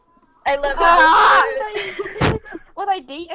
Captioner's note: chuckle